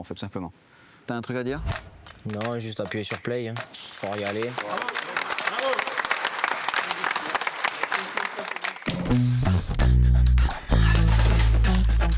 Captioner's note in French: applaudissements